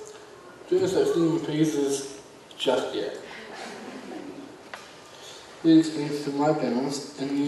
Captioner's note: audience laughs